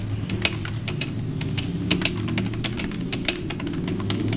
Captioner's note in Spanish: typing